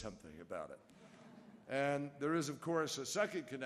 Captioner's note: laughter